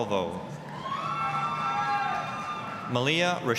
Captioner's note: applause, cheering